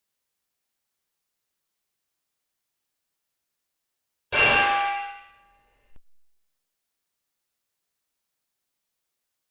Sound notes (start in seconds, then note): 4.4 metal loudly clangs